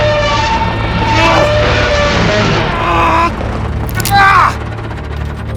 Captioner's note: metal groaning; grunting